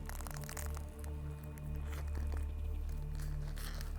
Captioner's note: crunching